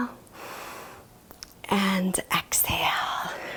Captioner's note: inhales deeply